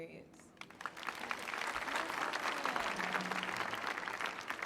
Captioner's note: clapping